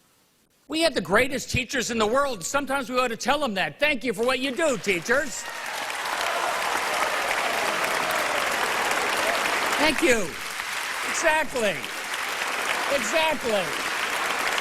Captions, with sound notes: NONE OF THIS WOULD BE POSSIBLE WITHOUT THE DEDICATION OF CONNECTICUT'S TEACHERS. WE HAVE THE GREATEST TEACHERS IN THE WORLD. THANK YOU FOR WHAT YOU DO. [APPLAUSE]